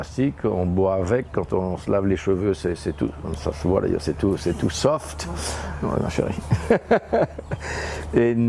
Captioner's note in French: rires